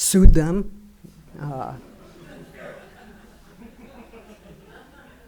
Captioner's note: audience laughing